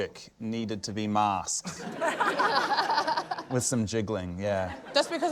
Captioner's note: laughter